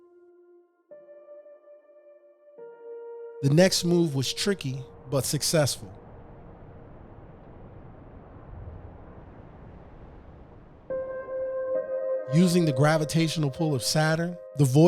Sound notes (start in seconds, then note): 0.0 gentle peaceful music; 7.1 gentle peaceful music; 7.1 quiet humming